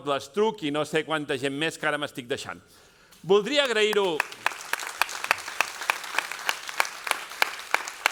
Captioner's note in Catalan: aplaudiments